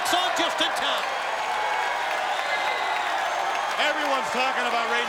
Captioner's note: crowd cheering